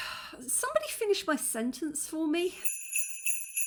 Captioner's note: sigh; sleigh bells